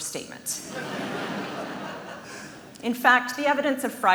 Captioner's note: laughs